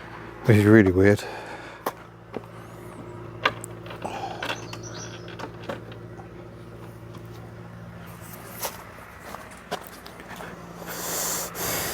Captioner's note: huffing sounds of annoyance